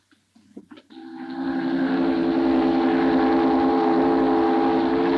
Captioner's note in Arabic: صوت بوق السفينة